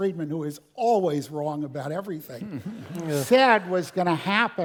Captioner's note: laugh